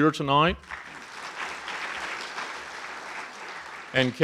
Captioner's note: audience applauding